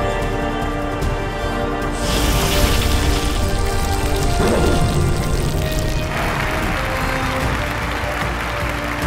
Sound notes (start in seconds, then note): 1.8 sound effect playing; 5.6 crowd cheering